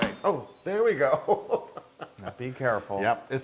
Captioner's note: laugh